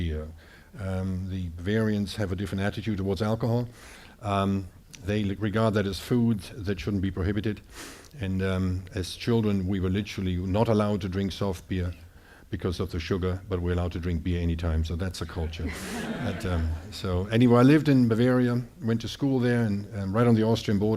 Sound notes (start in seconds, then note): 15.6 audience laughing